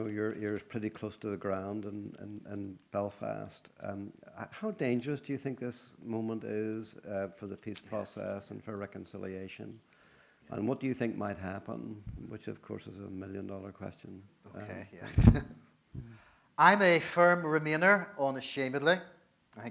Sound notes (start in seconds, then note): 15.0 laughs